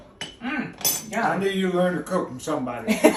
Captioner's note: laughter